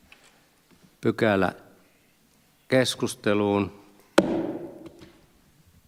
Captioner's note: Nuijan kopautus